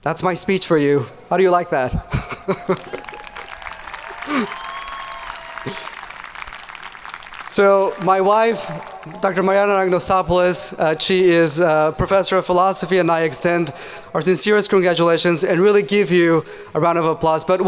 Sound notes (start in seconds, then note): 2.2 audience cheering